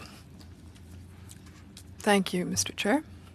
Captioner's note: speaking FRENCH